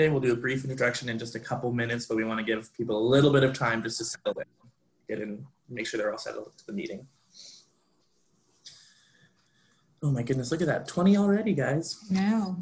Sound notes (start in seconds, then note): 4.0 voice cuts out